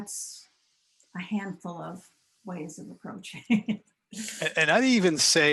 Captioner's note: laughs